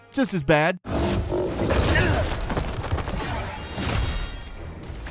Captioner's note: characters grunting